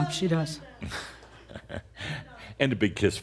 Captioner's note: Adamus chuckles